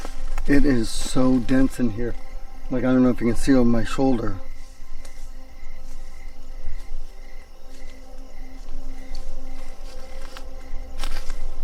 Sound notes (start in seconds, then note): 0.0 mysterious music; 5.3 crickets chirping